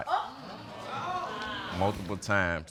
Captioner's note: audience gasping